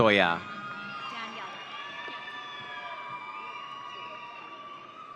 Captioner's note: audience cheering